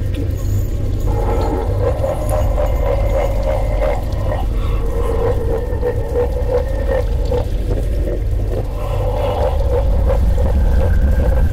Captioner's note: The Shell laughs